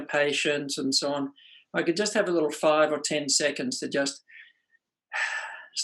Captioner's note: sighs